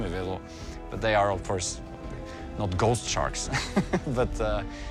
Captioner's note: laughs